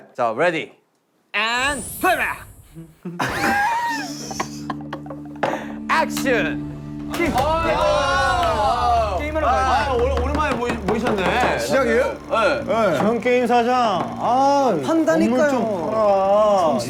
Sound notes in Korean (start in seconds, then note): 2.7 푸흡